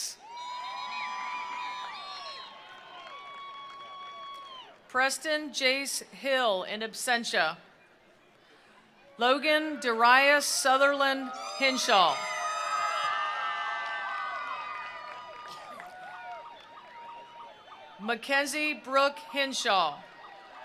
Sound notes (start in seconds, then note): 0.2 attendees cheering; 0.3 attendees applauding; 12.4 attendees cheering; 12.5 attendees applauding